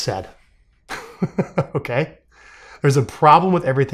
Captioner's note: laughing